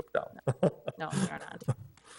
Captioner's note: laughs